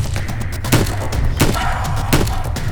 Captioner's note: roaring